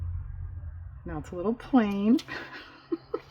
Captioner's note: laughs